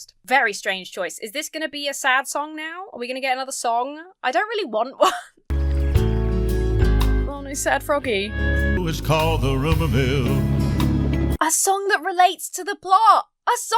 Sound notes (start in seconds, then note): 5.0 chuckles; 5.5 bluesy music